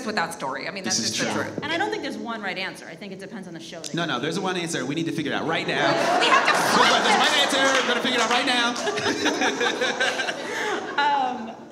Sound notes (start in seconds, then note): 5.6 audience laughs; 8.6 all laugh